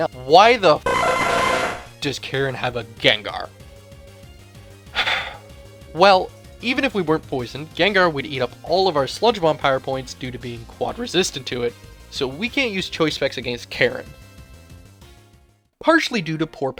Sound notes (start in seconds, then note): 0.9 Exeggcute cry; 4.9 sigh